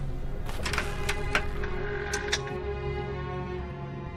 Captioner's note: door opening